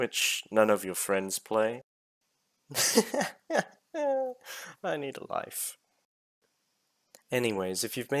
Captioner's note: laughs